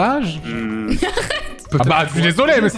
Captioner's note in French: Rire